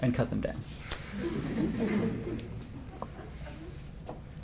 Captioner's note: laughter